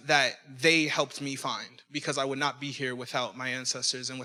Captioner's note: none